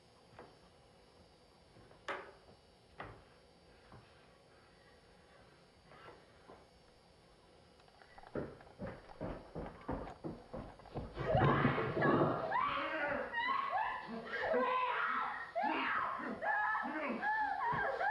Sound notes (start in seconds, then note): 8.0 footsteps; 11.2 woman screaming